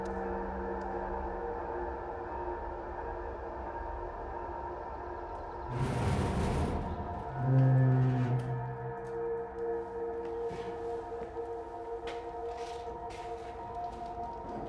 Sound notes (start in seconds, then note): 5.6 metal scraping